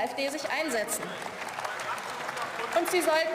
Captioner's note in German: Beifall